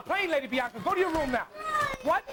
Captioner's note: yells